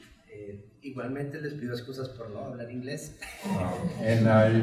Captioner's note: speaks in Spanish